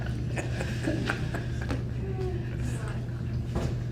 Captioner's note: laughter